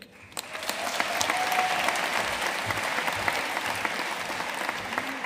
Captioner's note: audience cheering and applauding